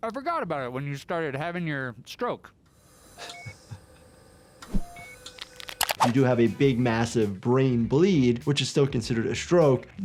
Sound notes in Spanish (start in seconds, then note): 3.2 se ríe; 4.7 monitor pitando